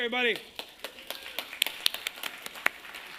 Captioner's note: applause